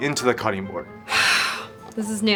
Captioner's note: exhaling deeply